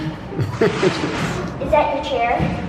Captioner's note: laughter